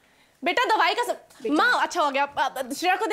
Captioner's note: Stammering